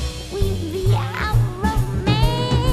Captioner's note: none